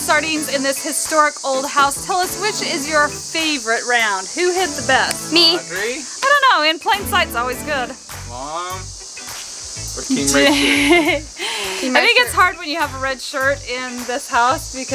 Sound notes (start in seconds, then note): 10.1 laughter